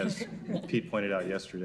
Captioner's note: crowd laugh